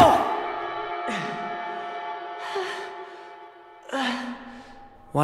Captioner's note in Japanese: 明の荒い息